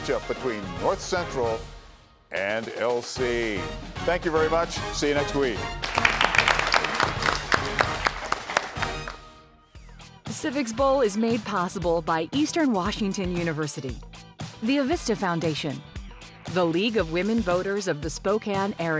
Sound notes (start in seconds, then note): 8.9 all applauding